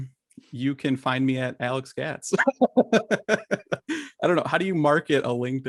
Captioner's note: laughs